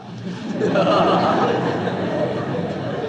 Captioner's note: laughter